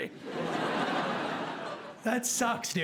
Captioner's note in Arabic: ضحك